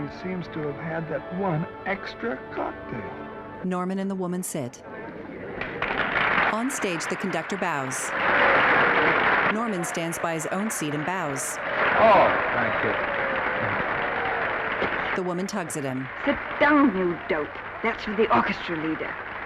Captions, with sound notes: Yeah, and he seems to have had that one extra cocktail. [audience applauding] Oh, thank you. Sit down, you dope! That's for the orchestra leader.